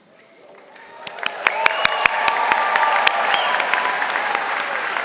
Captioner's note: audience applauding